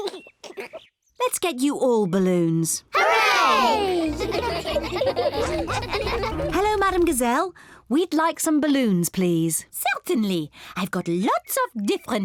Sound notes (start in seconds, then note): 3.7 giggling